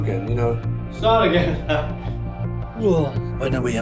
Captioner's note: laughs